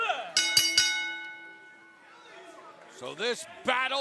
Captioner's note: bell ringing